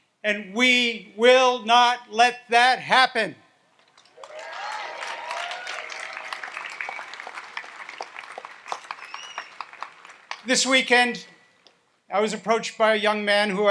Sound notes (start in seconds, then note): 4.1 audience applauds and cheers